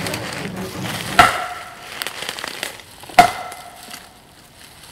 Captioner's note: bat whacking